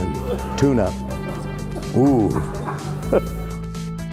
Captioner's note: laughter